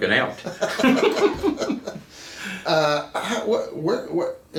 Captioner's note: laughing